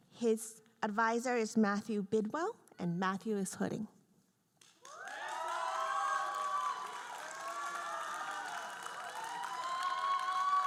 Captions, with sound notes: His advisor is Matthew Bidwell, and Matthew is hooding. (audience cheering and applauding)